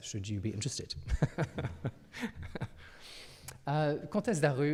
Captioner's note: laughs